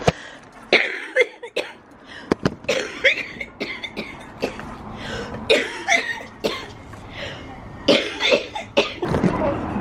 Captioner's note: coughing